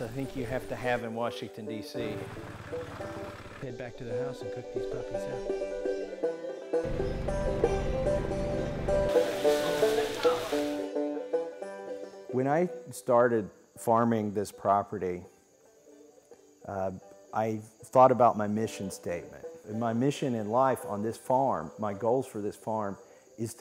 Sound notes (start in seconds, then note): 6.8 engine rumbling; 8.8 oil sizzling